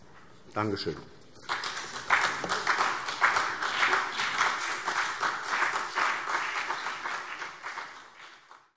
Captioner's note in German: Beifall CDU und BÜNDNIS 90/DIE GRÜNEN